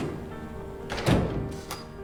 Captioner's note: door shuts